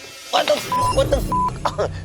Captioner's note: beep